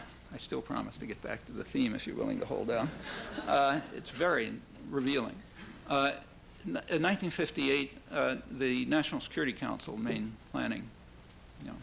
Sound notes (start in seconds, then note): 2.8 laughter